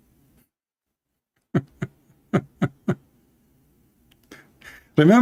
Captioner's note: Gelak